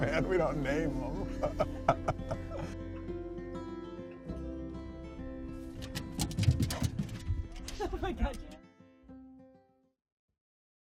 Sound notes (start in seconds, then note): 1.0 laughs; 2.7 pleasant guitar music; 5.8 feet pattering; 6.5 dog panting